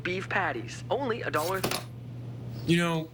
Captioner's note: clicks off